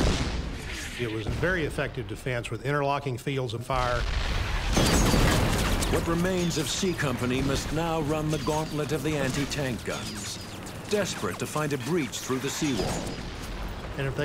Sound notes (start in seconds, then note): 4.2 cannon shots exploding; 4.2 rapid gunfire exploding